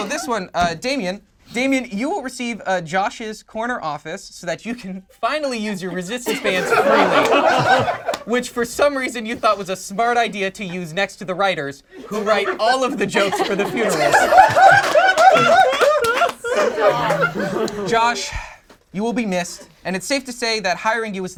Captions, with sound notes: Oh, this one, Damien. Damien, you will receive Josh's corner office so that you can finally use your resistance bands freely. (group laughs) Which for some reason you thought was a smart idea to use next to the writers who write all of the jokes for the funerals. (group laughs) - Stop. - Josh, you will be missed. And it's safe to say that hiring you